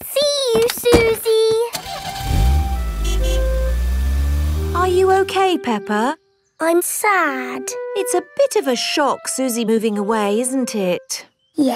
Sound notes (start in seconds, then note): 1.8 horn honks